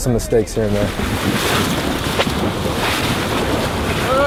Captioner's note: water splashing